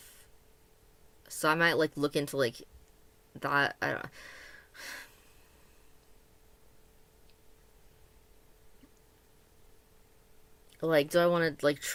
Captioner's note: sigh